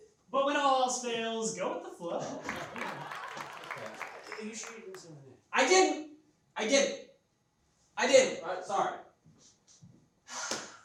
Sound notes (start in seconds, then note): 2.4 audience claps